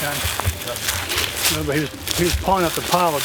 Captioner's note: leaves loudly crackling